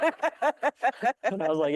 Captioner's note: audience laughing